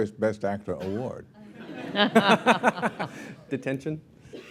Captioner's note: laughter